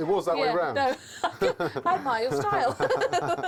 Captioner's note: laughs